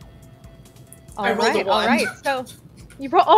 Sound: laughs

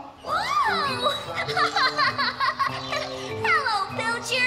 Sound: giggling

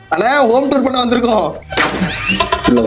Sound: door opens

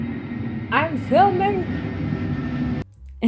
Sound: loud airplane noises

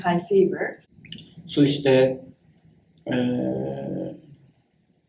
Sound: speaks in Japanese

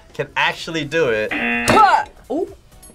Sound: buzzer rings

